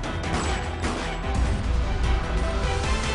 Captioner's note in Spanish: Disparos